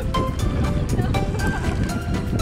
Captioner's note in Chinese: 哈哈